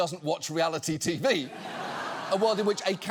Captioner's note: audience laughs